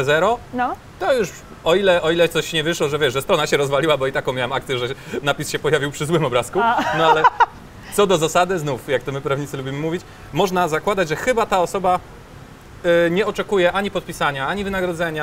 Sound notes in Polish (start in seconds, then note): 6.6 śmiech